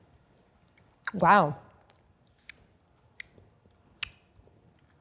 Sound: lips smacking

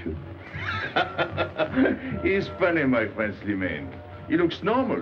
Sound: laughing

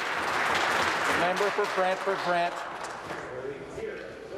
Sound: some Applause

